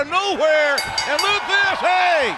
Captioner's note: bell ringing